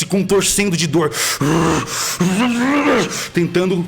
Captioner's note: roar